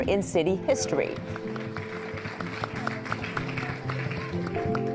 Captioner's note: clapping; upbeat drum music